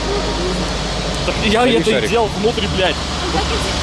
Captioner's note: arguing